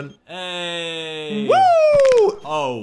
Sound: bone-cracking sound plays

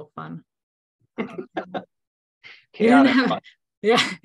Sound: laughing

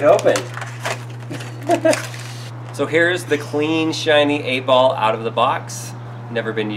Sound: laughs

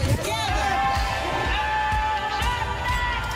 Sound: crowd cheering

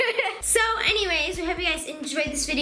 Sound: laughing

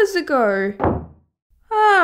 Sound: slam!

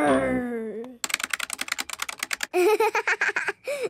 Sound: keyboard clicking

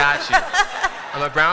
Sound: laughter

